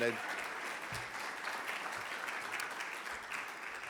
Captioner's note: audience clapping